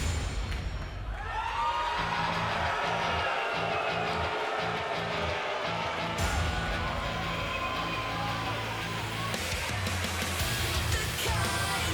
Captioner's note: crowd cheering